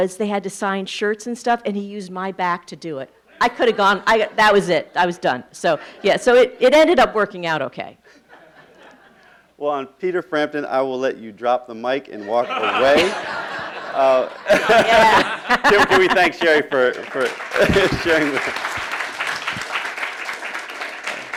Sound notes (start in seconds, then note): 8.3 laughing; 12.3 laughing; 18.9 applauding